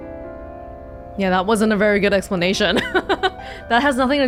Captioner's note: chuckles